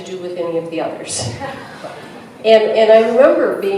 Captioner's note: laughter